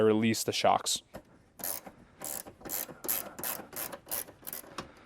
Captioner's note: tool clicking